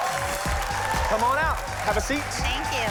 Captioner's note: cheering